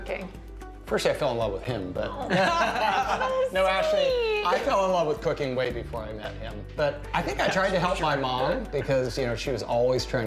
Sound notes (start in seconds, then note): 2.2 laughter